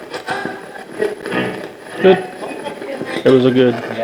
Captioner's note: radio voices